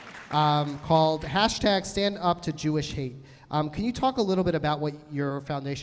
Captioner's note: applause